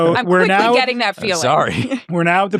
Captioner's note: chuckles